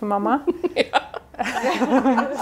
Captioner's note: laughs